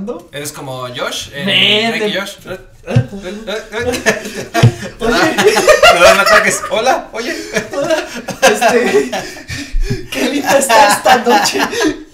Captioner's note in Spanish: risas